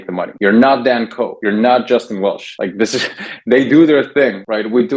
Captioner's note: laughs